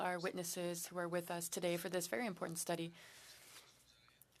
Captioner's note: speaking French